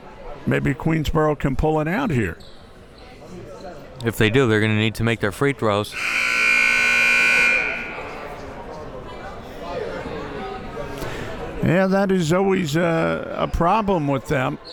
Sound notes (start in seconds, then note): 5.9 buzzer blares